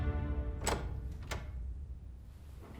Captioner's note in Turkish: Kapı açılma sesi